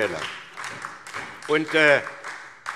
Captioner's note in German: Beifall SPD